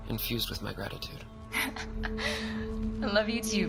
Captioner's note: soft Laughing